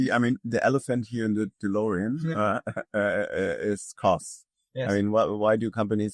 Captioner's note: chuckles